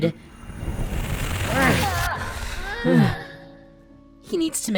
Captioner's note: glitching and grunting